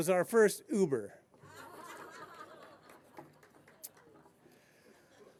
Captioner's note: laughter